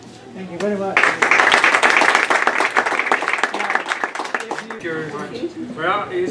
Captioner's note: applause